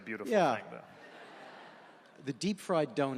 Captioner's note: audience laughing